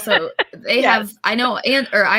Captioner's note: laughing